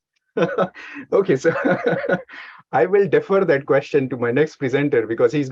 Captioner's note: laughing